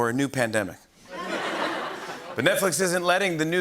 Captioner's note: laughter